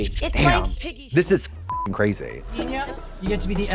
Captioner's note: beep